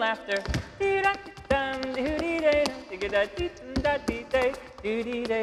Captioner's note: shoes clacking